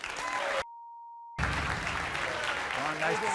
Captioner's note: clapping